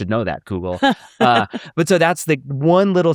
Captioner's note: laughs